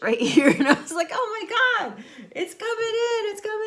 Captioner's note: laughs